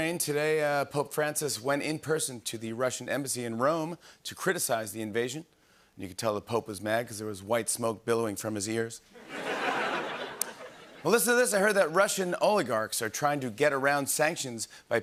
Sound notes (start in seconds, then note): 9.2 laughter